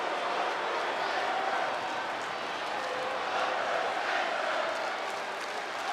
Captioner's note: audience chanting and clapping